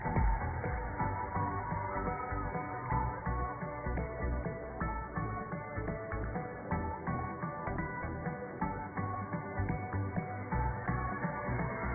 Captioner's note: cheers and applause